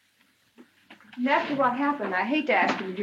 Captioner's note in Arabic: none